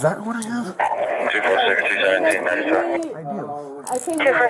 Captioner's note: radio chatter